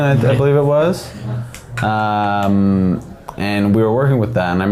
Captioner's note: making clicking sounds